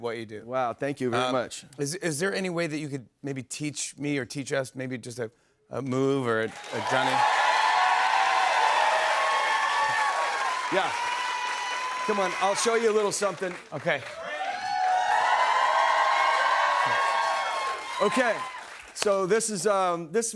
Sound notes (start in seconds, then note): 8.0 cheers and applause; 15.8 cheers and applause